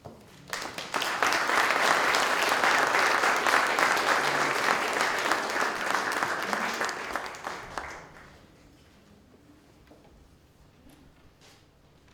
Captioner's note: applause